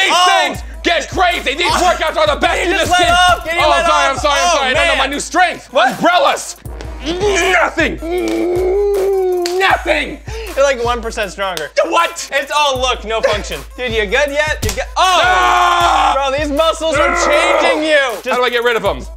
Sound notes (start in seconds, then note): 9.1 grunting; 14.6 snap